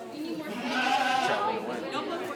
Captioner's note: sheep bleating